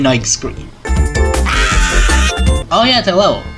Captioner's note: annoying scream